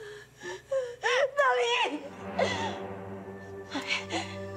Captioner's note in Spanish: Sollozos